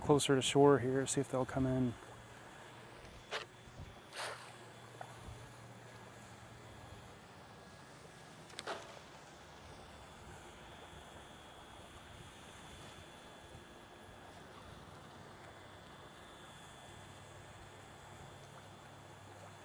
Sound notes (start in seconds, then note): 6.1 water splashing